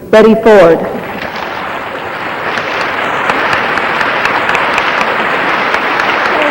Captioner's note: audience applauding